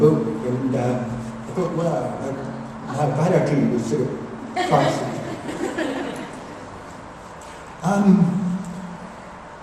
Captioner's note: laughter